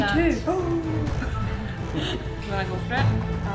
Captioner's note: laughing